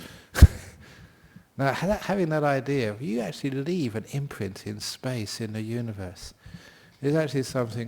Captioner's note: chuckle